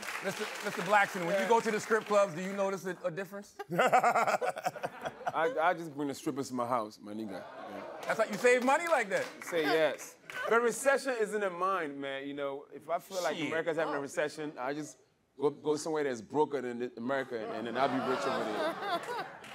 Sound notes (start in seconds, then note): 3.6 laughs